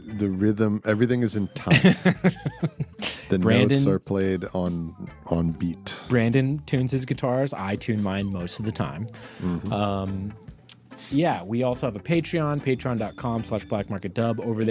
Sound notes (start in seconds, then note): 1.7 laughing